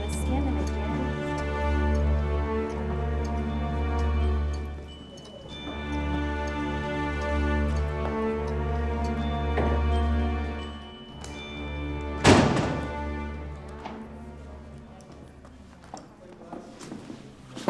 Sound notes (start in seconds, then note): 0.2 teachers chattering; 5.4 clock ticking; 12.0 door closes